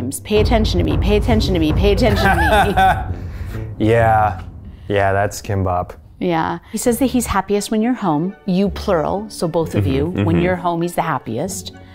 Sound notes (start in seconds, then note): 2.1 chuckle